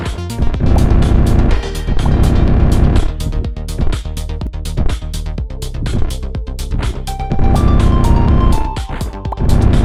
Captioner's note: lots of glitchy sounds